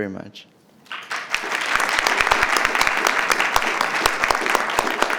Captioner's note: audience applauding